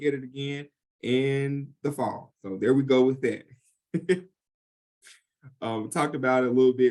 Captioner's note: chuckles